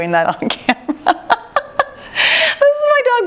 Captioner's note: laughs